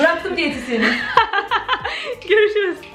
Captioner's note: laughing